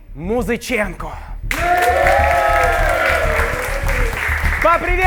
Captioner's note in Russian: Аплодисменты